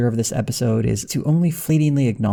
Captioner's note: none